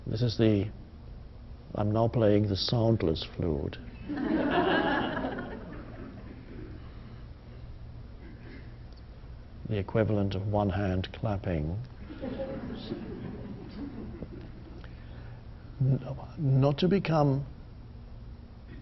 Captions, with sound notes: This is the, I'm now playing the soundless flute. (audience laughing) The equivalent of one hand clapping. (audience chuckling) Not to become dependent